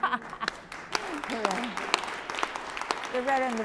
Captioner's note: applause